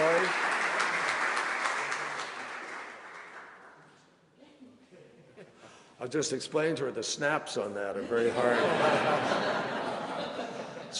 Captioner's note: laughter